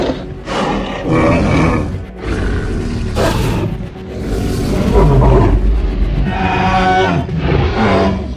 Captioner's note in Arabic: أصوات معركة دينو